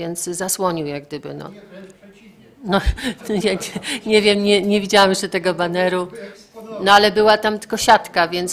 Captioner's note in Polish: śmiech